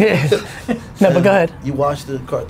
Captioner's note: laughing